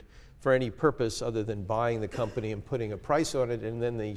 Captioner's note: cough